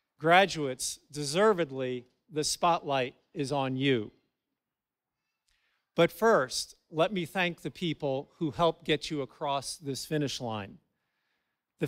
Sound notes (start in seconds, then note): none